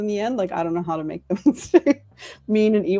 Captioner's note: laughs